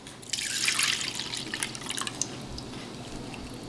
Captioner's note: cream pouring